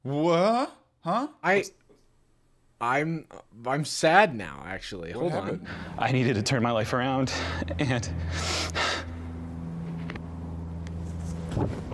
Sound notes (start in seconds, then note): 8.2 sniffling